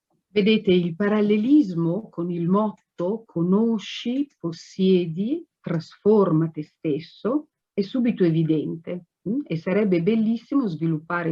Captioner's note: speaks Italian